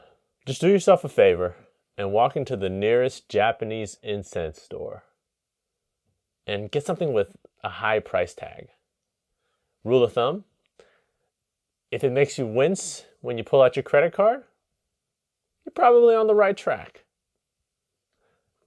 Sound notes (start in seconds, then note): none